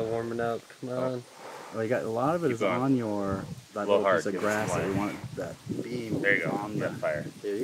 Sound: background talking

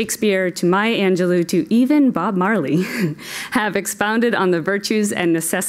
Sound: laugh

